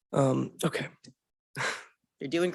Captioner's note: chuckling